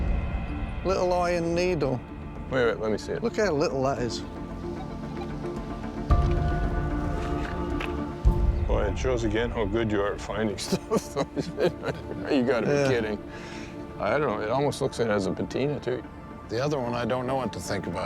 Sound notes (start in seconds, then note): 10.6 laughing